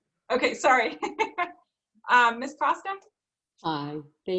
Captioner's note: laughing